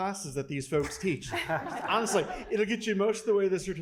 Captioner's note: laugh